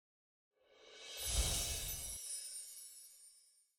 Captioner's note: chimes tinkling